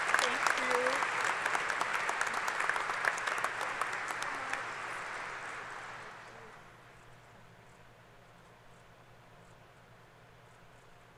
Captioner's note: applause